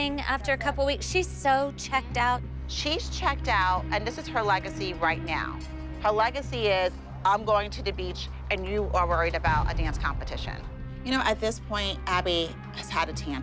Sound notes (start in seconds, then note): none